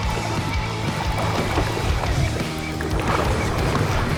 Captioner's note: water splashing